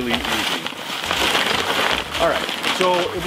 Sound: paper crinkling

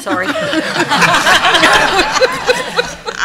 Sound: laughter

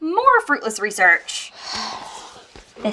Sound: Carmilla sighs

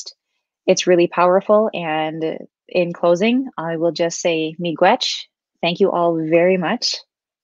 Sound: speaking Ojibwe

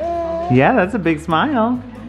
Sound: baby babbling

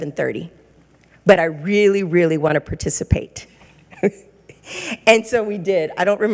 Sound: laughs

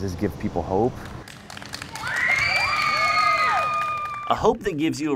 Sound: clapping; cheering

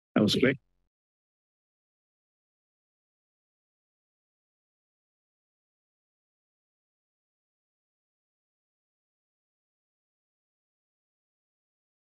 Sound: silence

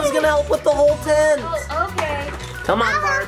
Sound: toys shuffling

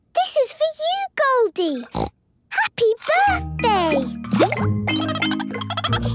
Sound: snorting; Goldie giggling

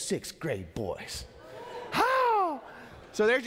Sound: congregation cheering

